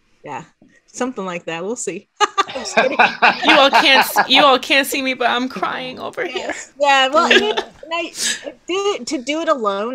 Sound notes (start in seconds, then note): 2.3 laughing